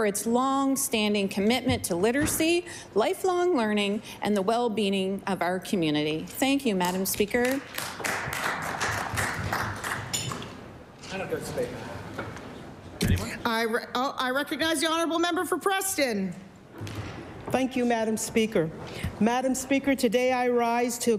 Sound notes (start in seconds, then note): 10.2 applause